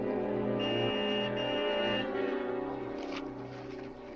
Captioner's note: horn honks